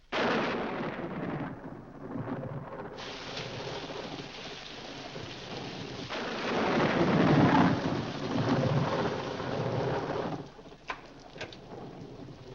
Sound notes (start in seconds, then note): 0.1 loud thunder; 3.0 rain falling heavily; 6.1 loud thunder; 10.8 door opens